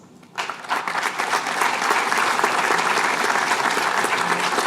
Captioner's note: applause